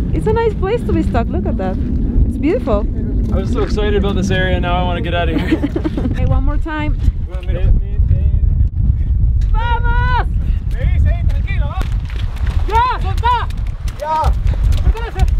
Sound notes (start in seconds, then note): 2.9 wind roaring; 9.9 speaks foreign language